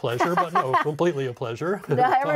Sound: laughing

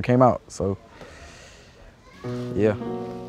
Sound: breathes deeply

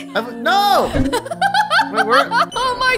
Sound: laughing

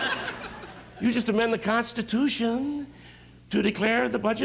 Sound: laughter

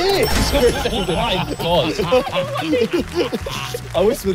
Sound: everyone laughing

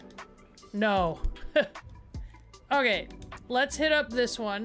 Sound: laugh

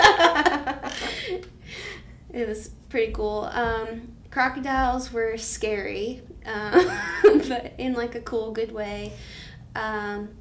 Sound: laughs

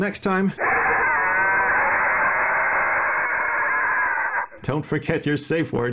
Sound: cyborg roars

